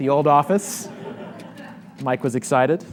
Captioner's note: audience laughs